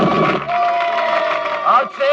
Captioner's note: crowd cheering